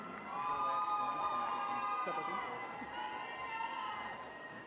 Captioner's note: attendees cheering